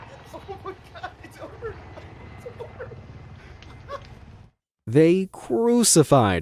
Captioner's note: laughs